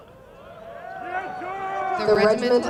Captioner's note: crowd noise